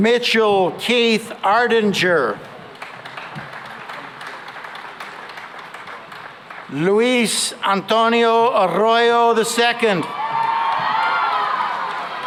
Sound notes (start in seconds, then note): 2.3 applause; 10.0 cheering and applause